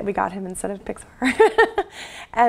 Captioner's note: laugh